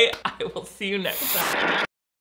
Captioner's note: laughs